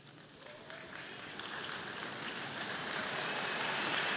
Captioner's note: audience applauding